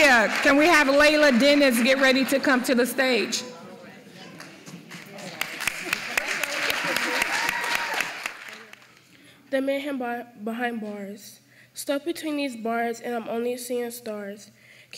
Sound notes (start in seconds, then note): 4.8 applause